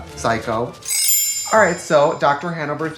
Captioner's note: chimes tinkle